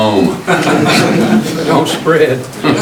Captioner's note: laughing